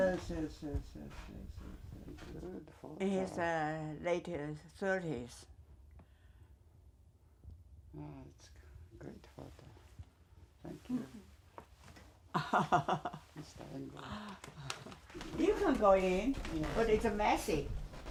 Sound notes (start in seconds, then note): 12.3 laughing